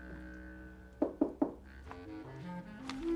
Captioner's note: Ketuk pintu